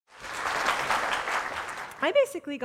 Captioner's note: audience applause